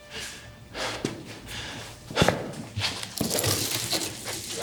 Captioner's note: Brown huffing